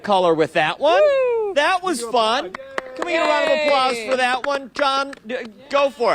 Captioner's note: applause